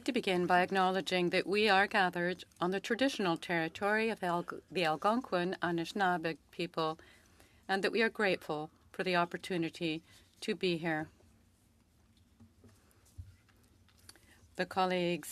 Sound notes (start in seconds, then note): 3.7 speaking French